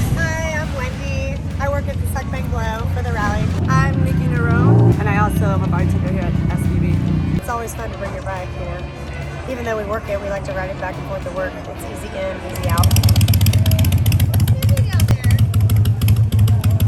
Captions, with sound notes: - Hi, I'm Wendy. I work at the Suck Bang Blow for the rally. - Hi, I'm Nikki Nuro. And I also am a bartender here at SBB. Its always fun to bring your bike here. Even though we work here, we like to ride back and fourth to work. It's easy in. Easy out. (engine grumbling) - It's easy out here.